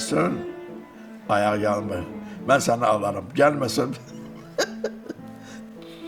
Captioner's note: laughs